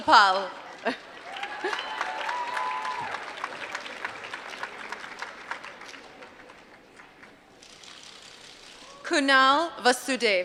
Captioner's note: applause